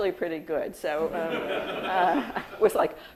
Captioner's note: audience laughing